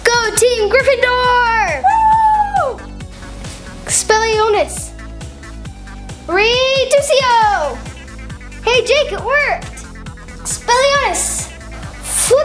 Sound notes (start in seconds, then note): 2.0 yelling